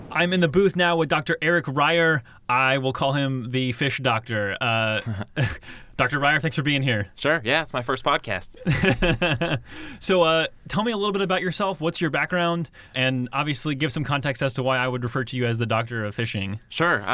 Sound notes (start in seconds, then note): 4.9 both chuckle; 8.6 laughs